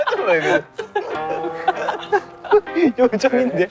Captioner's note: unable to hold the laughter